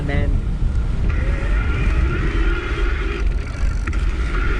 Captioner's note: bike whining